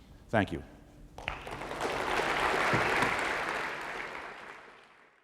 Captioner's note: applause